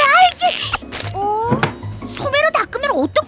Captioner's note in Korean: 덜컹, 의자에서 일어서는 소리